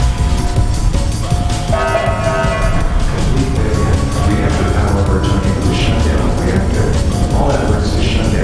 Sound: announcement Chime

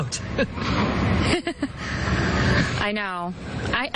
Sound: chuckling

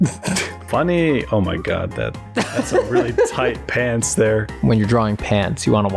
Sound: laughter

